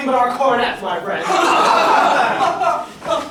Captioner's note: laughter